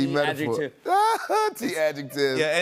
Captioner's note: laughs